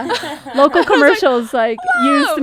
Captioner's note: laughing